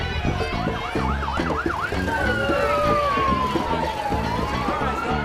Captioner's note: police sirens